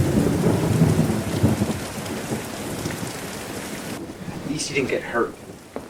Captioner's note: rain pattering; thunder rumbling